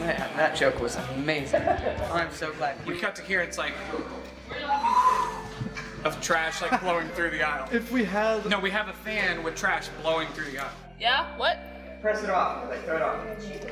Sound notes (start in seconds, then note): 4.7 whooshing whistle